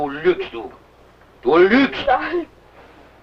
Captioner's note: foreign language